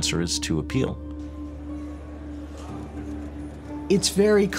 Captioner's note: people talking in background